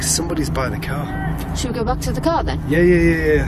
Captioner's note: yelling in the distance